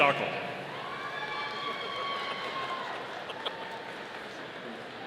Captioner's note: audience cheering